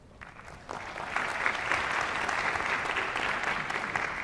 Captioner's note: applause